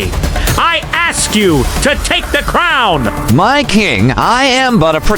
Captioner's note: hesitant